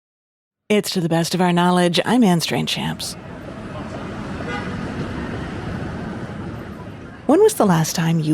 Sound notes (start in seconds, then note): 3.1 traffic noises